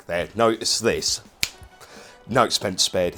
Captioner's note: finger clicks